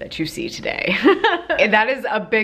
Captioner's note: laughs